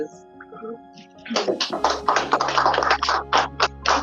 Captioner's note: applause